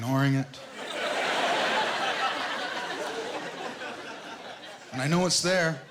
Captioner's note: laughter